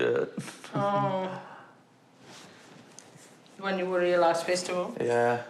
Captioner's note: chuckles